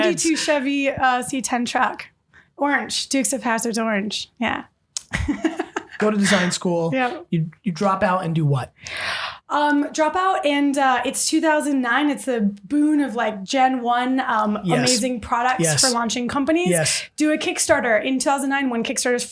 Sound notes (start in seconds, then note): 5.2 laughing